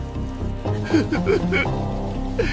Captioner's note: chuckle